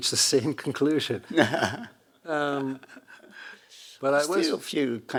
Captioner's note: Hiroshi laughing